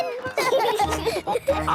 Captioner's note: laughing